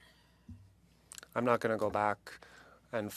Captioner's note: speaking French